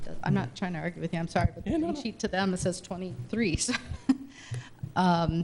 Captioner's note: chuckles